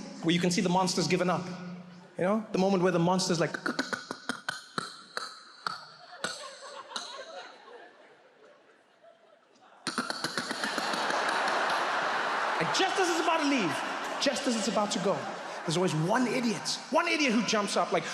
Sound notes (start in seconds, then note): 3.2 imitates alien sounds; 10.0 audience laughs